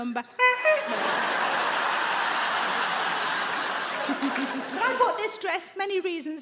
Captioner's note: Sarah imitates horn honking; audience laughing